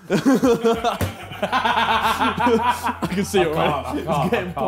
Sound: laughing

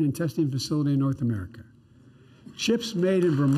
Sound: applause

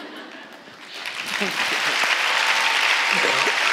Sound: audience laughing; audience applauding

